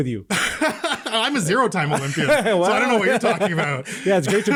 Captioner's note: laughing